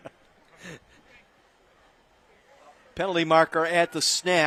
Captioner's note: laughter